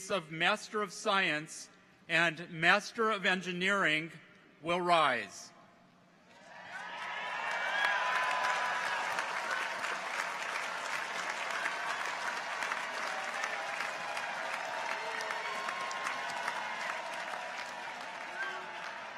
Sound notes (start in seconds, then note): 7.1 audience applauds; 7.1 people cheer